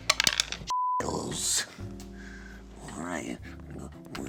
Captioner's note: beep